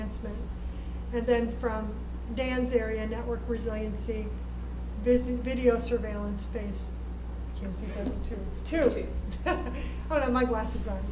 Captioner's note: chuckle